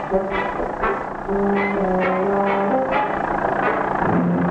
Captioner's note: car engine roaring